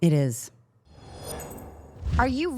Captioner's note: air whooshing